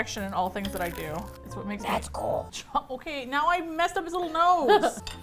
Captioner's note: gravelly voice; laughs